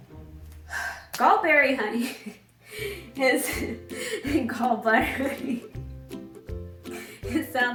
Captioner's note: laughing